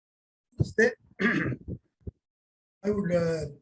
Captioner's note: clears throat